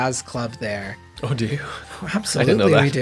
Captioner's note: chuckles